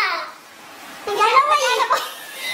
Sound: laughs

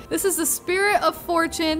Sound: none

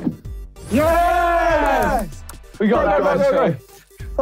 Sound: group cheering

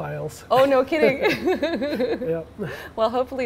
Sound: laughing

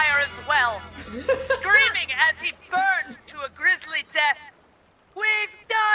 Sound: laugh

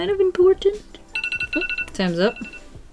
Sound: timer sounds

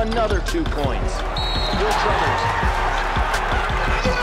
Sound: crowd cheering; whistle blows

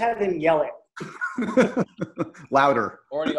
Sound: laughing

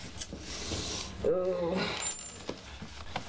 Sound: ring drops on counter

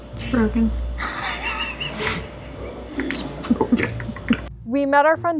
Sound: laughing loudly

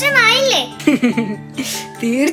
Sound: Rabbit laughs

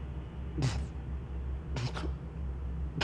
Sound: coughs

